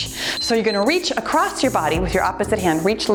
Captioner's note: timer beeps